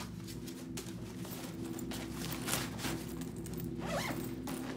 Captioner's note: backpack rustling; zipper rattling